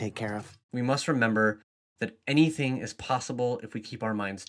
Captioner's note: voiceover